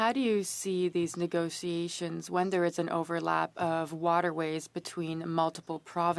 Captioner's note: speaking French